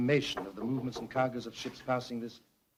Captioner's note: knocking on door